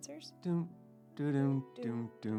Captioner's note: humming